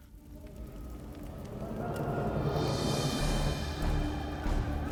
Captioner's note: shouting